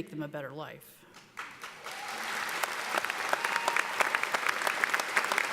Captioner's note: audience applauding